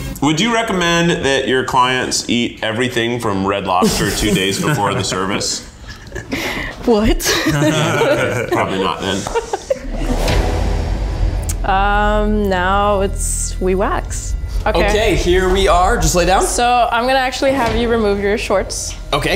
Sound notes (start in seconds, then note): 7.1 everyone laughing; 10.3 dramatic music